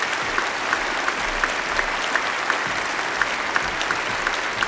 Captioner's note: applause